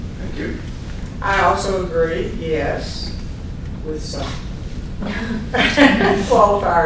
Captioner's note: laughter